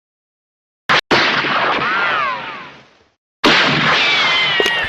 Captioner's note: gun shots echoing